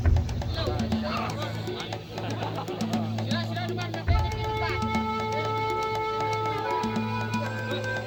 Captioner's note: coyote call